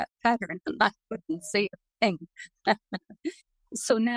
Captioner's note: laughs